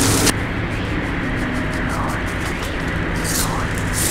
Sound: keyboard clacking loudly; film rustling loudly

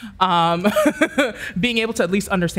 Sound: laughs

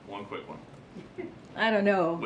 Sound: laughter

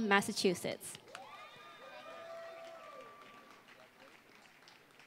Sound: applause

